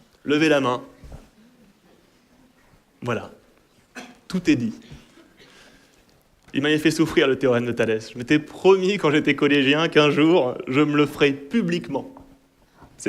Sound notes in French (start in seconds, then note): 4.9 Rires